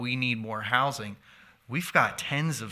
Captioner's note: none